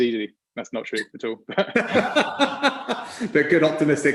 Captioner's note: laughs